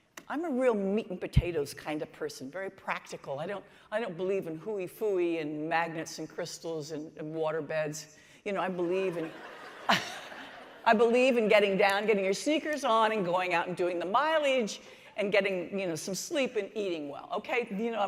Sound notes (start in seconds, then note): 9.0 laughter